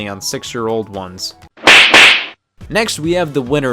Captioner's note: two slaps